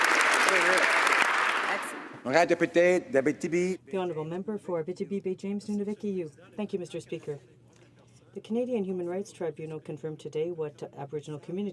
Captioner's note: some Applause